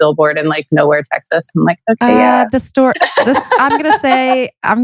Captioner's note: laughs